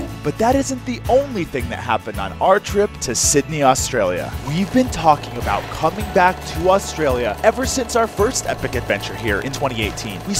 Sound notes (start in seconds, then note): 4.3 film reel humming